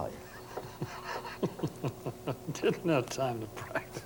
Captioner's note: laughs